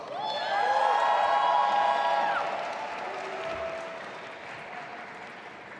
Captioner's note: audience applauding and cheering